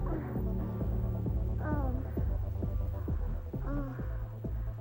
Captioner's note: moaning